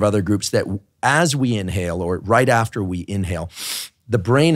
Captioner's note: inhales